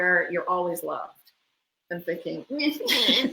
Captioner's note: crying sounds